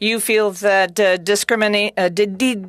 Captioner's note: speaking French